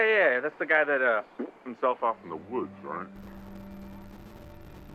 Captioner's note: shot